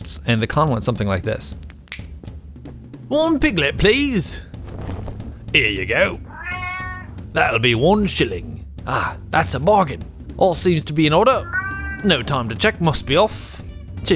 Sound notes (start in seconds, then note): 6.0 bag meows; 11.2 bag meows again